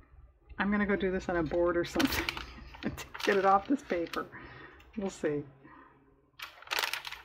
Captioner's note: laughs